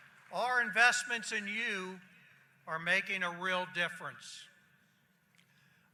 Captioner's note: applause